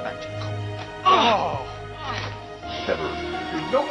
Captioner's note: groan